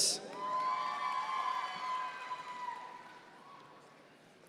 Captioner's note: audience members cheer